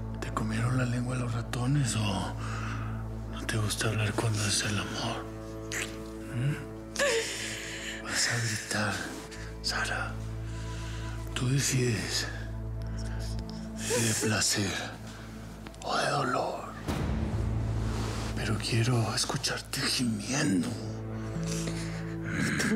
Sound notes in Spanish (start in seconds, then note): 7.5 sollozos